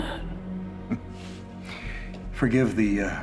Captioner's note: chuckles